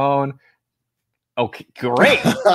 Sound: laughter

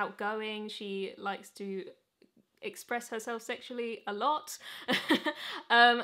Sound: chuckles

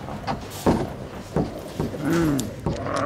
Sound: boards rattling; zombies groaning

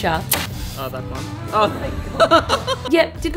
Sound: laughs

